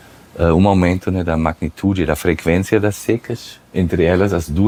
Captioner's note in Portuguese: none